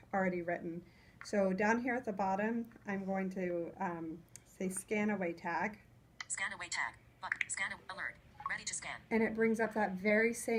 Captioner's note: voiceover